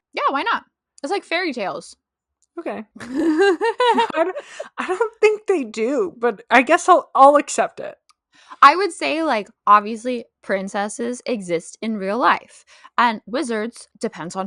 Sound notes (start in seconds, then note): 3.0 laughter